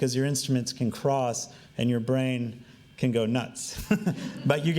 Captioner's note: laughing